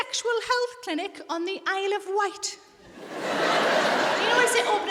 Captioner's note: audience laughs